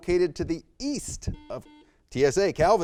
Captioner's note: buzzer beeps